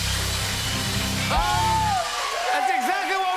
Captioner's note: cheers and applause